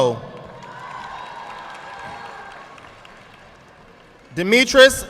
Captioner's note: audience clapping